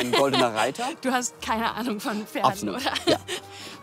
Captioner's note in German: lacht